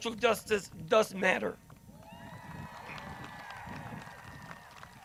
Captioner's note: crowd cheers